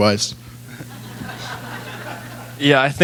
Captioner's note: laughter